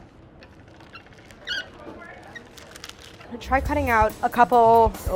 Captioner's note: machine squeaking